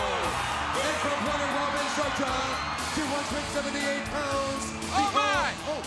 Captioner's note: crowd cheering